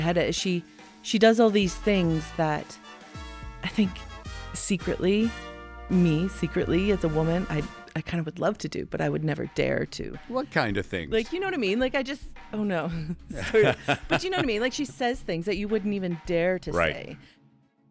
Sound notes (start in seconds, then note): 0.0 lively music; 13.0 interviewer laughing